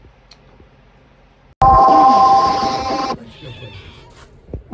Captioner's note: meows